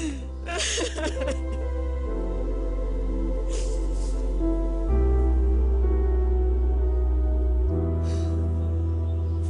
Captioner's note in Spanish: Sollozos